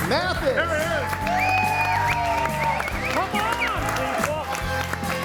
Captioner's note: group cheers; group cheers and applauds